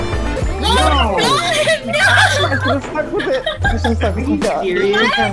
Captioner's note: all yelling